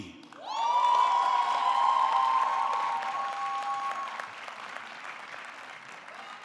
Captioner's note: audience clapping; audience cheering